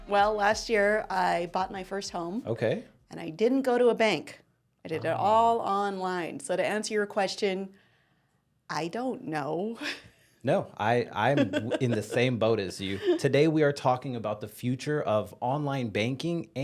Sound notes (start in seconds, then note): 11.1 laughing